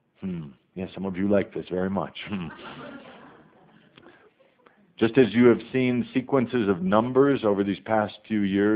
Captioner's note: some audience laughter